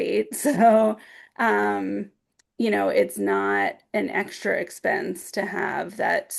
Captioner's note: chuckles